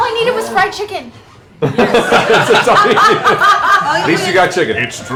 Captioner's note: laughter